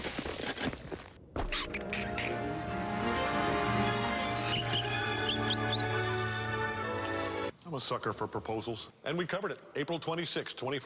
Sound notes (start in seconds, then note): 4.4 squeaking Noises